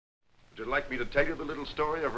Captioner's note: voiceover